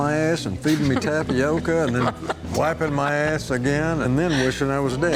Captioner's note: Angela laughing